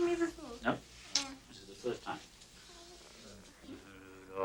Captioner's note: kisses